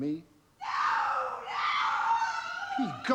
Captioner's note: woman screams